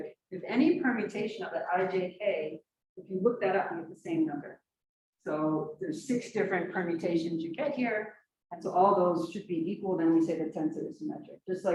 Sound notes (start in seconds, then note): none